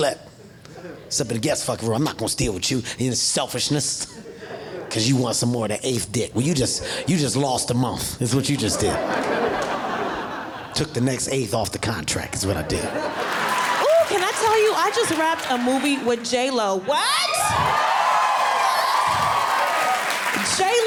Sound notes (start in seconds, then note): 8.5 audience laughing; 12.9 audience applauding; 16.9 audience screaming